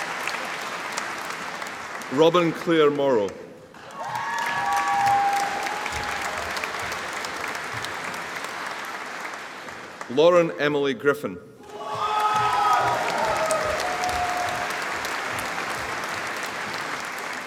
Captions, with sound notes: Robyn Claire Morrow (AUDIENCE APPLAUDING) Lauren Emily Griffin (AUDIENCE APPLAUDING)